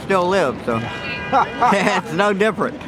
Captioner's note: laughing